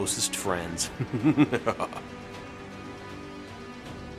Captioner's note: laughing